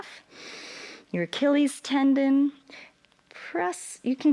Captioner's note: inhales